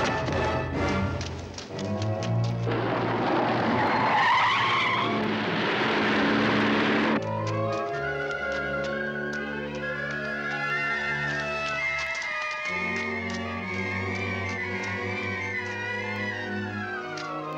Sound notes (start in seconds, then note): 3.9 tires screeching; 7.8 suspenseful orchestral music